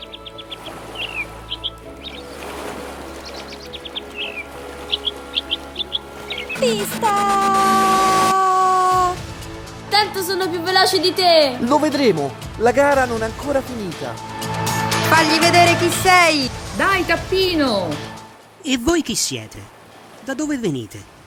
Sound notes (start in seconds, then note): 7.1 voice-over